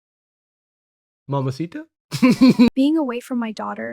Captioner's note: laughs